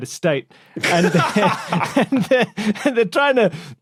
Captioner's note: laugh